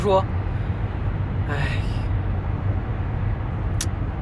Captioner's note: a very distinct "kids these days" sigh